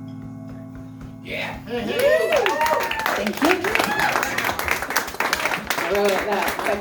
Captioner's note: audience applause and"Yeah!" "Hey hey! "Woooo!